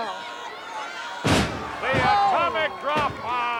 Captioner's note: floor thuds